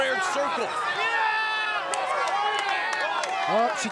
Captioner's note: crowd claps and shouts indistinctly